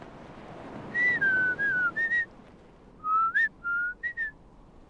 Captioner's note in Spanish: silbido